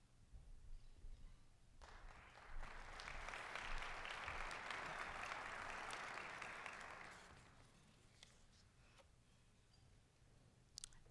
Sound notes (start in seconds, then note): 1.8 applause